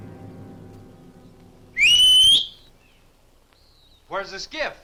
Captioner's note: Thorne whistles